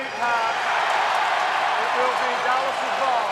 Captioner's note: cheering